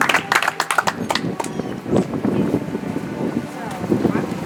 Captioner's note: audience applauds